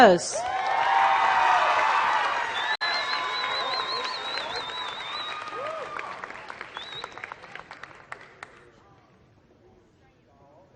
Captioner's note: applause